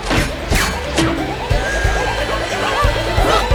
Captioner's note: all straining